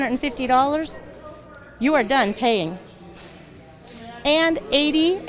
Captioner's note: attendees chattering